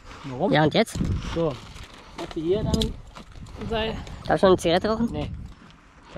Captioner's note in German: none